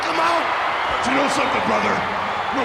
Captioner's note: audience cheering